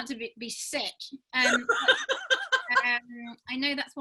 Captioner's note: laughing